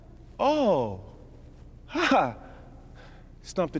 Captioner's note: mocks laugh